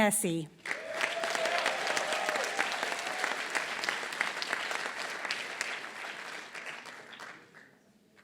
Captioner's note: applause